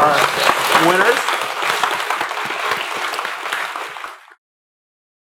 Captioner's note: applause